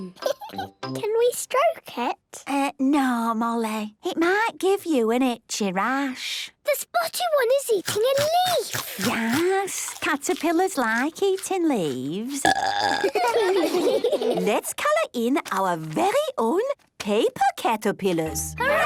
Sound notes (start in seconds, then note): 12.3 burping; 12.8 children giggling